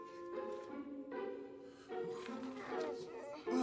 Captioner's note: whimpering